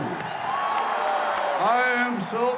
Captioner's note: cheering